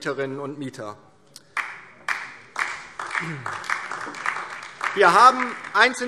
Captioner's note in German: Beifall DIE LINKE